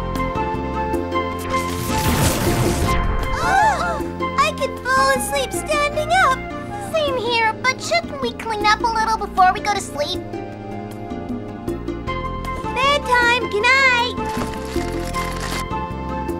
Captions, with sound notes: (zap) - OH - I could fall asleep standing up. - Same here but shouldn't we clean up a little before we go to sleep? - Bed time. Goodnight.